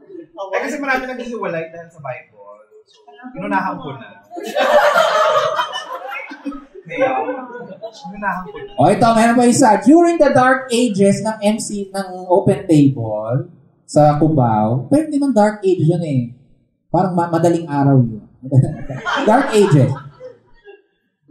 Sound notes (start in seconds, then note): 4.3 laughter; 18.6 laughter